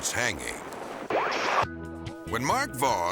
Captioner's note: transition whooping